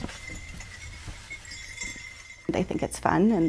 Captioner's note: bells jingling